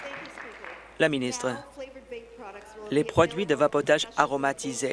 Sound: applause

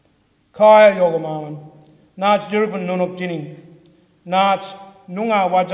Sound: speaks foreign language

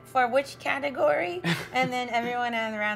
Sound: interviewer laughs

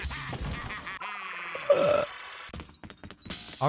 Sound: burp

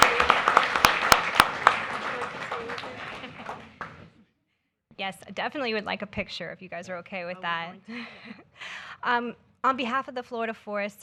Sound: applause

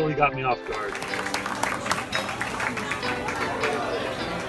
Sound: people clapping

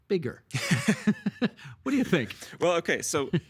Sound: both laughing

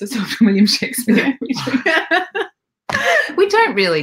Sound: both laughing

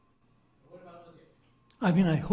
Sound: speaking faintly off mic

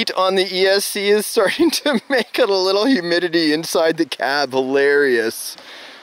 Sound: laughing

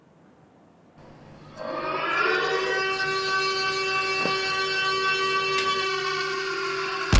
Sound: the siren screaming; rumbling

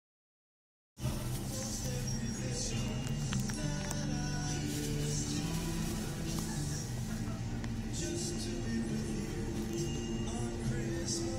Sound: sound of Christmas shopping

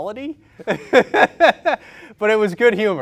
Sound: laughter

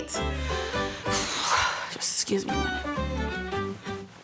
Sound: sighing

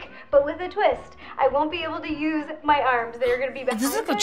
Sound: gasps

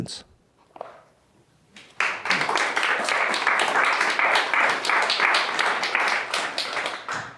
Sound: applause

